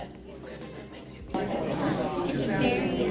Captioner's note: group chattering